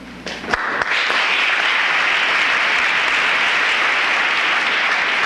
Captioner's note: applause